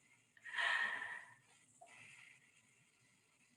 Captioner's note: sighing